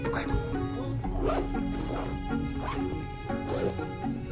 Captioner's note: zips